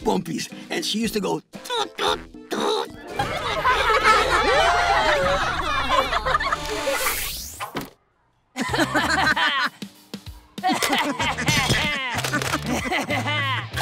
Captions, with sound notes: and she used to go "toot, toot, toot!" [laughing] [laughing]